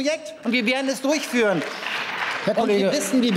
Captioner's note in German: Beifall